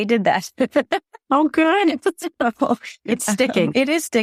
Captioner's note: laughs